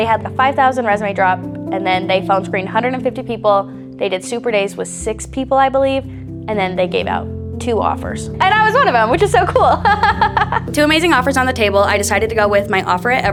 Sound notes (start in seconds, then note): 9.2 chuckles